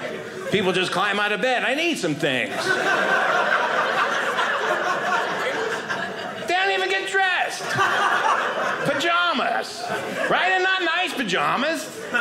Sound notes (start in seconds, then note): 2.7 audience laughing